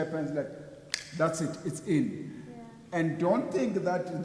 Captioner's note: snapping fingers